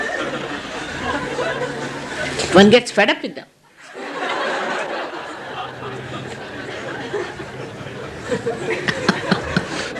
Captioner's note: laughter; shri mataji laughs